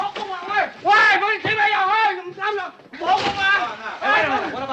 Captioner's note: yelling